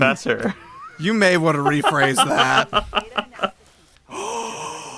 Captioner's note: laughs; gasps